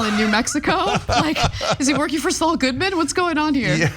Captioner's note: laugh